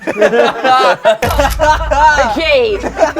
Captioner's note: laughter; camera snaps